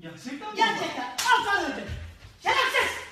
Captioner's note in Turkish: şaplak